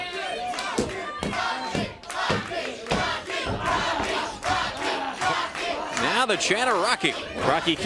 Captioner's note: crowd chanting